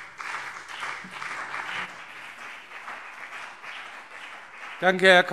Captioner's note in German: Beifall BÜNDNIS 90/DIE GRÜNEN und CDU